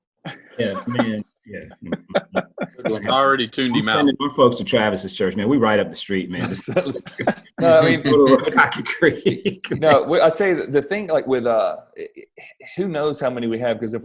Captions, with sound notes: *laughs offscreen* Yeah, man, yeah I already tuned him out We're sending our folks to Travis's church man, we right up the street, man. *laughter* No, I tell you the thing like with a, who knows how many we have,